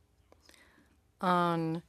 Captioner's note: speaking in French